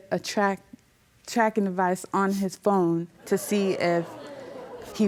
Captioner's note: audience gasps